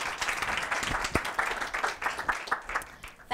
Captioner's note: applause